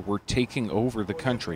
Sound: speaking alternate language

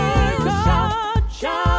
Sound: shout!

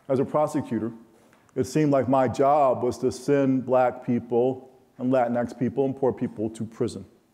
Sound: none

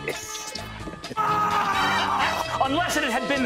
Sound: this one is just screaming

